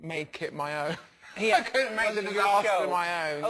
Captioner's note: laugh